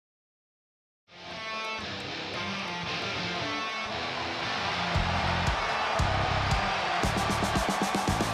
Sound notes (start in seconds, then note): 1.2 rock music plays; 4.7 crowd cheers